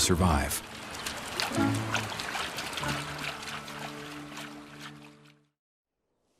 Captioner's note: bears splashing in water